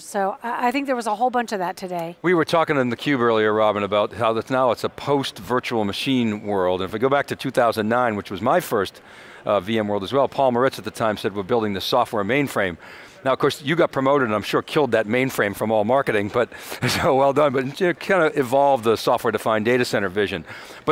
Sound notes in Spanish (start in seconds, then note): 16.8 risas